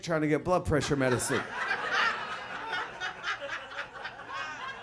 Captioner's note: audience laughs